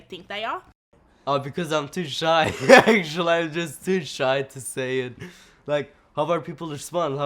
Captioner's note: laughs